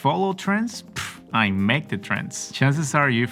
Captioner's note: scoffs